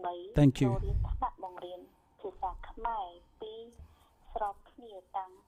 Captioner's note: speaking foreign language